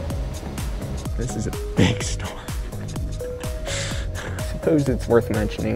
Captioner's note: chuckles